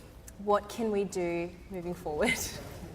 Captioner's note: laughs